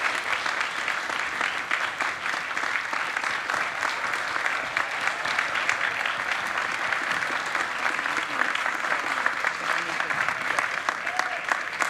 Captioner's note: applause